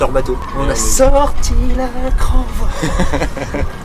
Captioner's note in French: rires